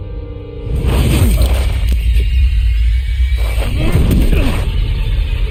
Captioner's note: tensed sound effect; Rick and Shane grunting